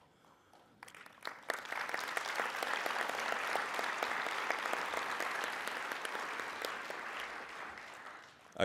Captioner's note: applauding